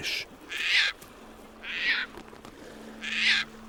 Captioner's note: bird cawing